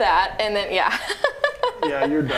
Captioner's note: laughing